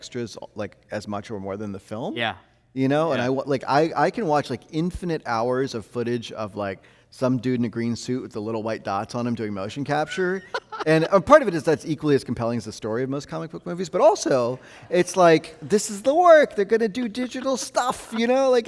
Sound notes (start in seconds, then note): 10.0 host laughing